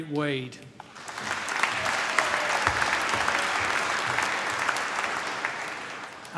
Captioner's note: applause